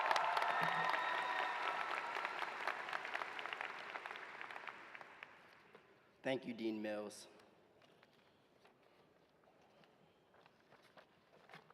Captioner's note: cheers and applause